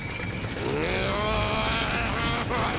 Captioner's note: growling